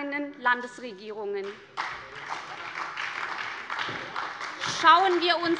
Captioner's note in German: Beifall bei der SPD